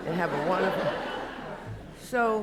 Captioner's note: laughter